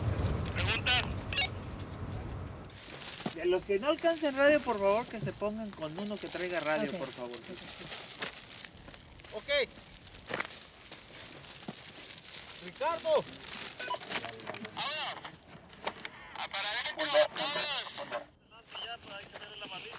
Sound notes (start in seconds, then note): 0.2 man on radio speaks Spanish; 3.3 group leader speaks Spanish; 13.8 radio beeps; 14.9 speaks Spanish